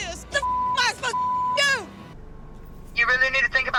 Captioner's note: beep